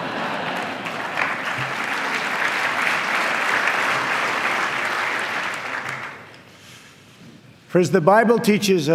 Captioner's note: laughter and applause